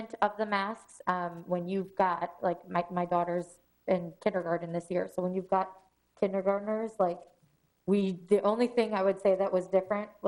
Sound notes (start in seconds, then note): none